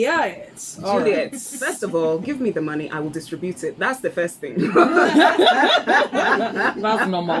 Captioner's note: laughs